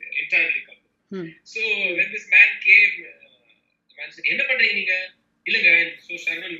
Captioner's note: in an affronting tone